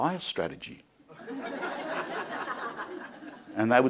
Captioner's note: crowd laughing